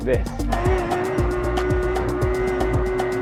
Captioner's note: engine roars